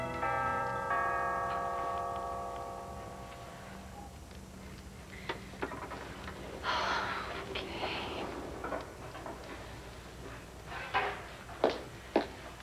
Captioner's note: doorbell rings